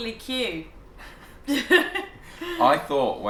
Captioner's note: both laughs